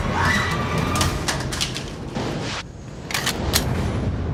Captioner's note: sound of gun falling on the floor